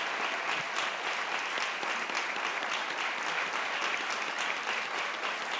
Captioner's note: participants applauding